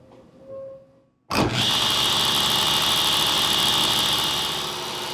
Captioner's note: saw whirring